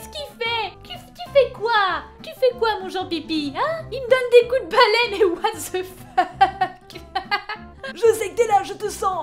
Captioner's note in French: rires